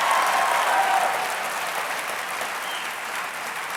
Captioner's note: applause